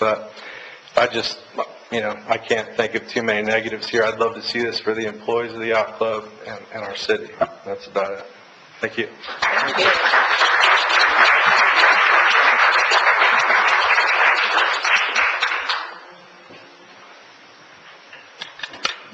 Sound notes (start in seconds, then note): 9.2 audience applauds